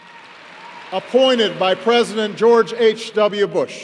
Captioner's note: applause